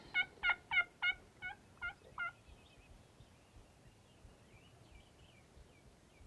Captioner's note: turkey gobbling and birds chirping continues